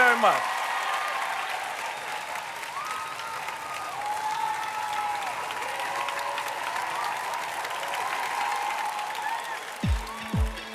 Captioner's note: cheers and applause